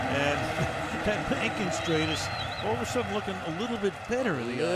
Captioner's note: chuckles